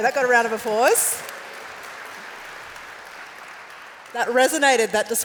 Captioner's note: applause